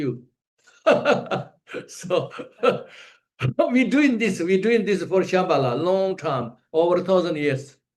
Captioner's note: laughs